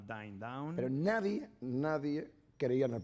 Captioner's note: speaking spanish